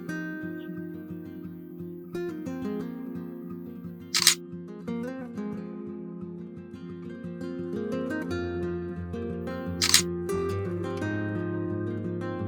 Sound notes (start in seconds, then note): 0.0 gentle guitar music; 4.1 camera clicking